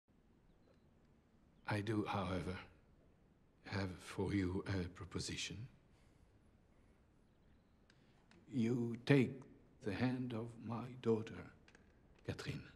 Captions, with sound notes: - I do however, have for you a proposition. (birds chirping) You take the hand of my daughter, Catherine,